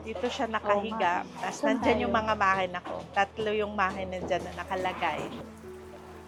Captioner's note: sewing